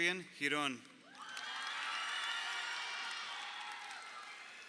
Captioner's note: crowd cheering